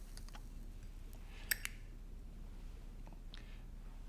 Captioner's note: lighter clicks